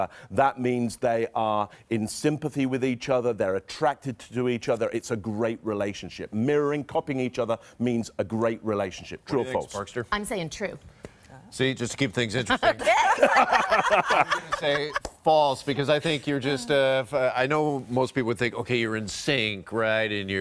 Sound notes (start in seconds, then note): 12.6 laughing